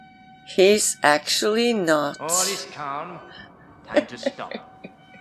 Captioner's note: laughs